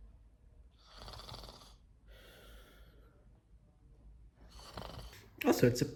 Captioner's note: zzz